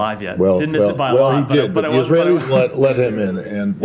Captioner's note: laughter